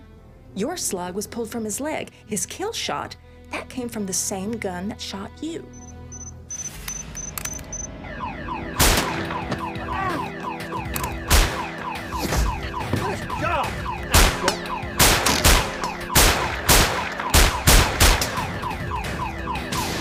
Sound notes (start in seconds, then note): 5.6 alarm siren blares; 11.3 gunshot; 14.9 gunshots